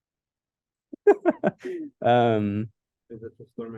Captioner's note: laughs